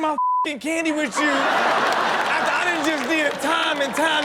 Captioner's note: audience laughs